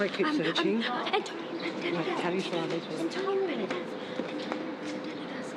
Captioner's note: whispers